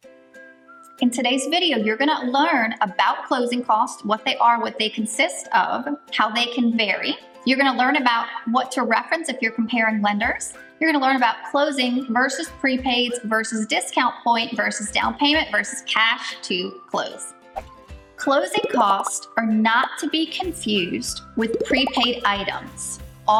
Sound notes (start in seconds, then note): 17.6 wind whooshing